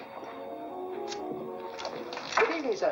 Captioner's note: drink fizzes